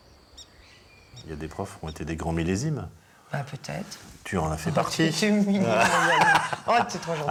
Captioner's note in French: rires